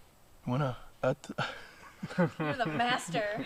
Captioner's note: laughing